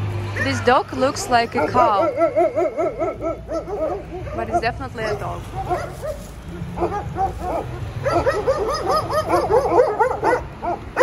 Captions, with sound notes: This dog looks like a cow... *barking in Georgian* but it's definitely a dog. *barking in Georgian*